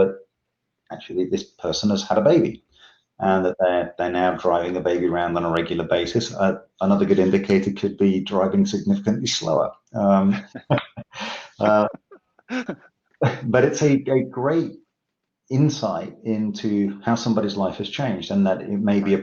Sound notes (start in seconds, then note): 10.1 laughs gently